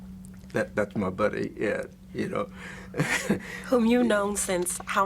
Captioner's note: laughs